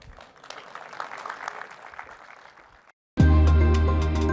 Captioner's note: audience clapping; upbeat music